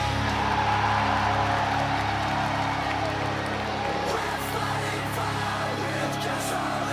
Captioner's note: cheers and applause